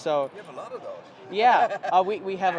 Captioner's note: laughter